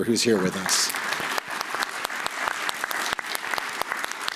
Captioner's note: applause